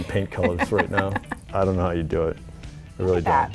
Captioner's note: laughs